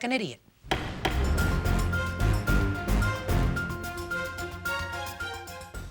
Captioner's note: gavel thumping; dramatic music